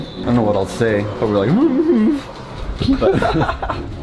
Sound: laughter

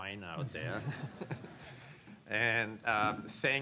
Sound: laughs

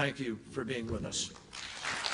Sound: applause

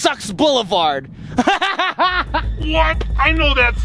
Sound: laughing

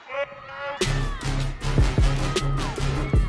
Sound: shouts

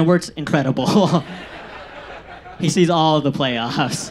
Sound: audience laughs

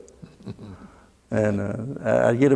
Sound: laughter

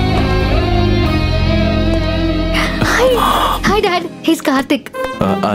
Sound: none

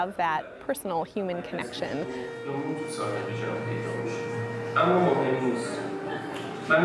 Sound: Persian language movie playing in the background

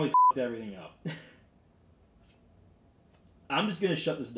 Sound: laughing

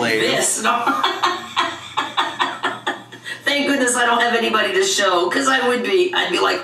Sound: laughing

